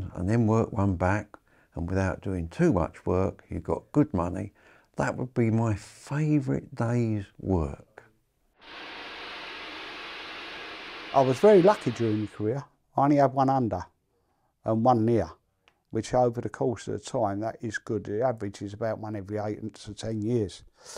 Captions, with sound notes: and then work one back and without doing too much work, you've got good money. That would be my favourite day's work. (steam hissing) - I was very lucky during my career I only had one under, and one near, which over the course of the time that is good. The average is about one every 8 to 10 years.